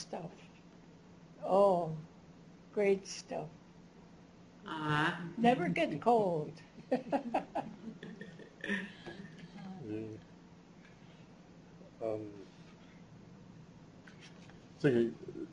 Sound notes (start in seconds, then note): 4.4 non-english speech; 6.8 laughing; 6.8 laughs